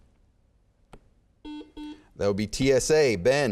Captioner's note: beeping